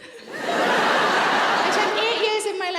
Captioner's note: audience laughs